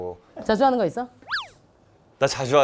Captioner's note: swoosh